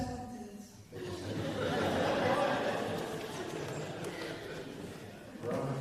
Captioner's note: laughter